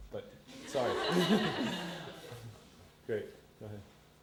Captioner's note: audience laughter